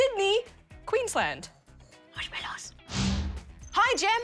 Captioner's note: whispers